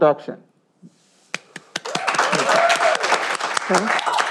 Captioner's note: cheering